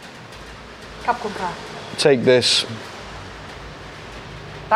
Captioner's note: speaking foreign language